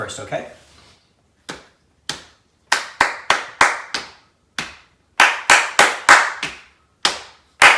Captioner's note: tapping and clapping loudly